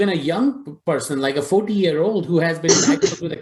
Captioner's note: coughs